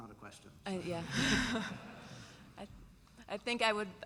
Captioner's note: laughter